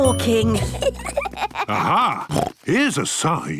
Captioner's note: children giggling; snorts